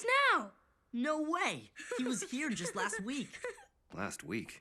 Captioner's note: laughing